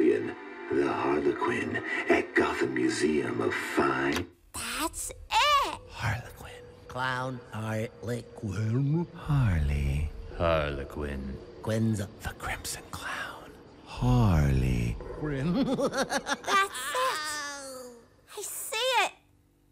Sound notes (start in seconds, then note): 5.0 whispering; 15.4 laughter